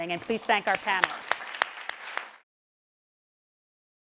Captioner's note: applause